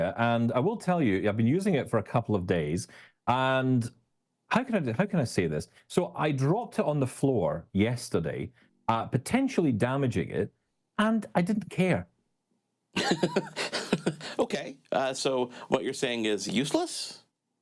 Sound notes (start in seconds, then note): 12.9 laughing